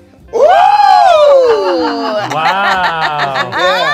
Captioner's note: friends exclaiming excitedly